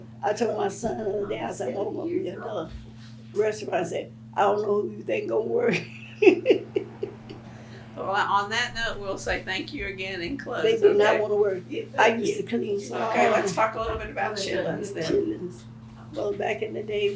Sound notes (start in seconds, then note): 7.8 laughs